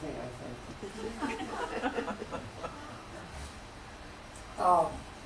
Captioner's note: laughter